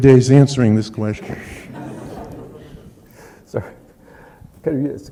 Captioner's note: laughter